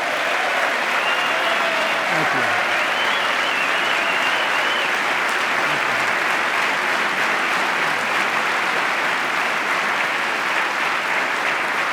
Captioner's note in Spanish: aplauso